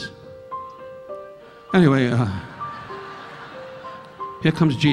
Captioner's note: audience laughing